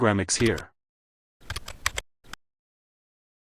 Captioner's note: typing